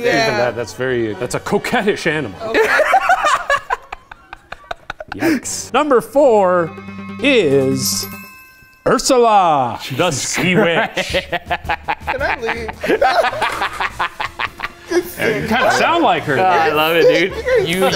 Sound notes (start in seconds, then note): 2.5 all laughing; 6.0 suspenseful music; 10.4 laughs